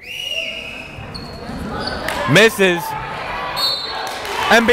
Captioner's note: whistling; whistle blowing